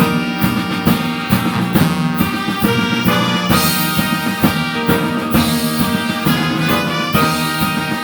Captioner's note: none